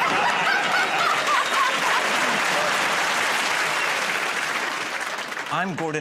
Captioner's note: laughter; applause